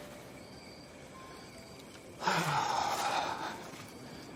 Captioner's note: sighs